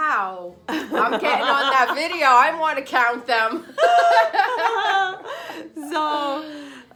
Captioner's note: laughs; laughs